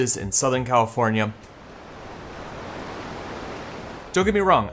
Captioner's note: waves crashing